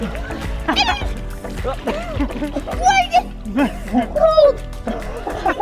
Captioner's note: laughing excitedly; dad laughing amusingly; laughing